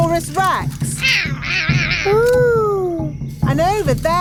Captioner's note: roaring